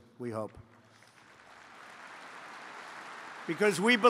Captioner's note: applause